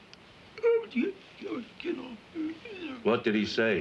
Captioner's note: whimpering